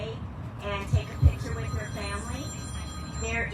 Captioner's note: cellphone ringing